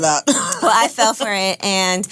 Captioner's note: laughs